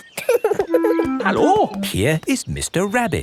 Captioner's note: laughing